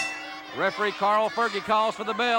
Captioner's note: bell dinging